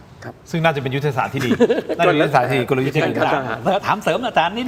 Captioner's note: laughs